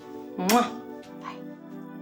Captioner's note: kisses